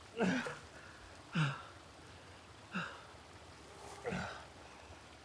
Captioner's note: Arawn breathing heavily